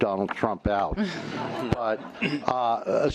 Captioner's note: laughter